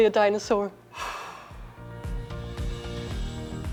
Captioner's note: sighs with relief